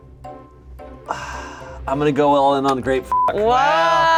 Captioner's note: sighs; beep